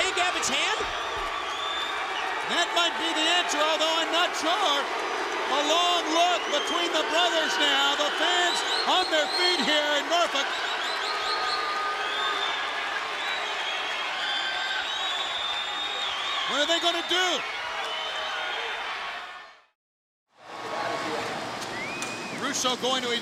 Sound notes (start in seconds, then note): 12.8 crowd cheering